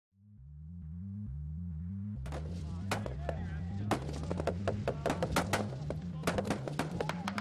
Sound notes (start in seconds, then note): 2.2 guns fire rapidly